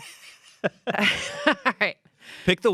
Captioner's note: everyone laughs